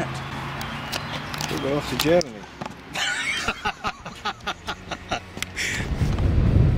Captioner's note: laughter